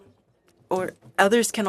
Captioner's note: speaking French